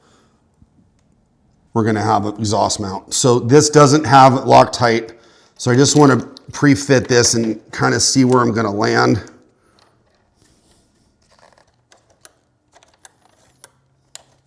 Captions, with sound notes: We're gonna have an exhaust mount. So this doesn't have it locked tight. So I just wanna pre-fit this and kinda see where I'm gonna land. (metal clacking)